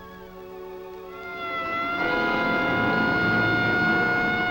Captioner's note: siren wailing